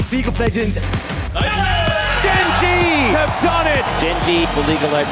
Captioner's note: cheers